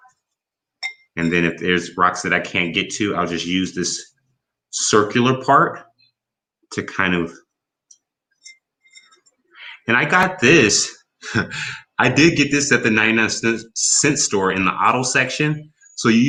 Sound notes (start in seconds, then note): 11.2 chuckles